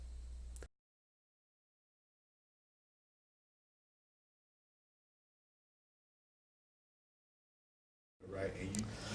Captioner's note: silence